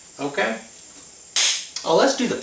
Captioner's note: claps once